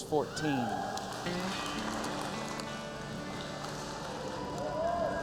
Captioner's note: cheers and applause